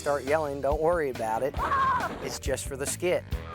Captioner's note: screaming